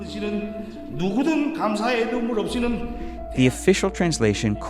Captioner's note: Kim Jong-Un speaking in foreign language